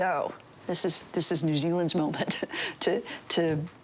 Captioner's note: laughs